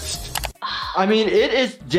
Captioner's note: exhales